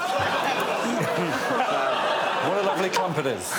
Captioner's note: laughter